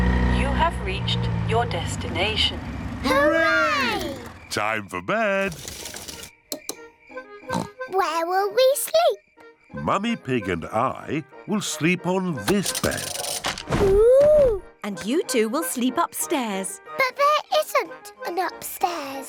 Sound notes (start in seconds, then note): 7.5 oinks